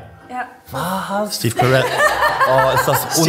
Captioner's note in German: Lachen